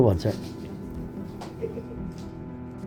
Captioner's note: narrator Giggles